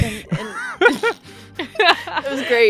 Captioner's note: laughter